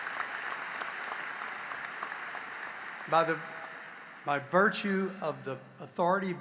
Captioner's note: applause